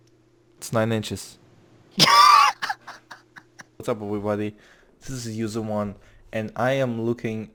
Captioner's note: laughing